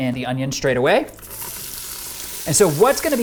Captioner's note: pot sizzling